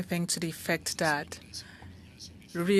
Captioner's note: speaking French